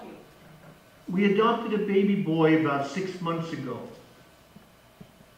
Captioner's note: voice on phone